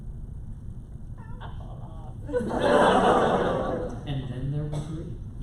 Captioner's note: laughter